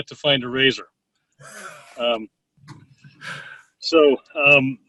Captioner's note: laughs softly